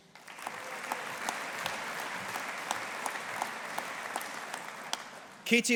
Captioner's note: audience applauding